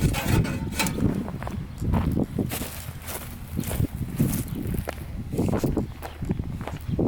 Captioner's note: angry crunching of grass under feet